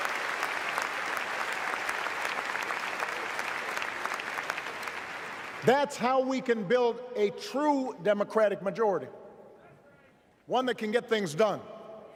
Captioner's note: applause